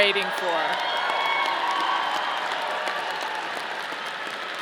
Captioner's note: audience cheering